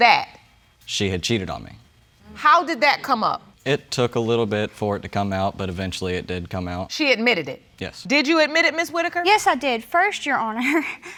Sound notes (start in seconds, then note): 10.6 snickers